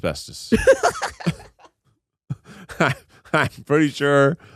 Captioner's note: laughs